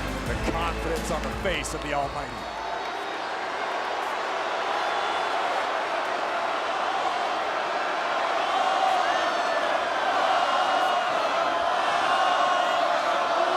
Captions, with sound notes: The confidence on the face of The Almighty. >> [APPLAUSE]